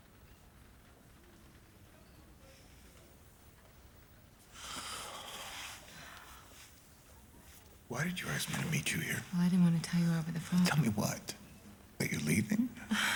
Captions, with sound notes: [sighs] Why did you ask me to meet you here? I didn't wanna tell you over the phone. Tell me what? That you're leaving?